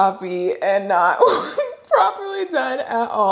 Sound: laughs

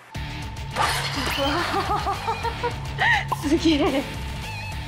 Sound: laughs

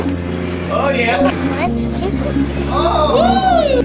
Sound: cheering

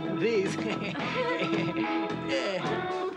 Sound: woman giggles; pair laughing

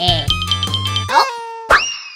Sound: gulp

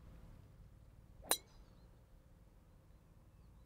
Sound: ping!

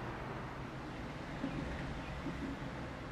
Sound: birds chirping; train passing in the distance

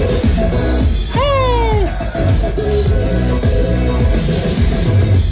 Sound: exclaiming

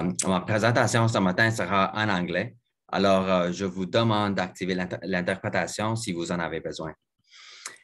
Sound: French

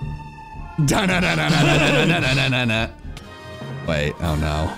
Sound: vocalizing

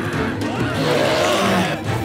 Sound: growls

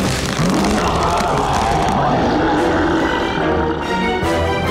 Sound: growling

